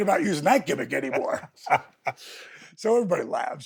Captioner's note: Steve laughs